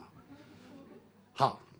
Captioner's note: audience laughter